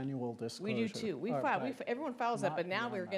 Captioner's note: speaking faintly